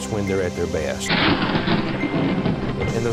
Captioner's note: thunder and Lightening